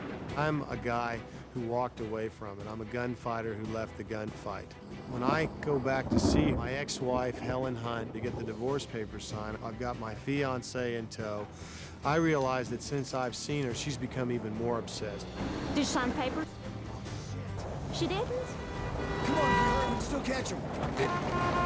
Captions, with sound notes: I'm a guy who walked away from it. I'm a gunfighter who left the gunfight. When I go to see my ex-wife, Helen Hunt, to get the divorce papers signed, I've got my fiancée in tow, I realize that since I've seen her she's become even more obsessed. - Did she sign the papers? - Oh, shit! - She didn't? - [hom honking] If we hurry, we can still catch them!